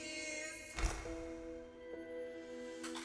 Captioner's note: camera clicking; poignant music